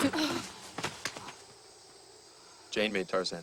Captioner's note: clunk